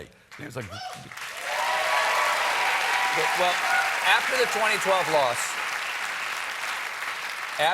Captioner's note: cheers and applause